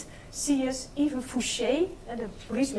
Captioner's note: speaks in foreign language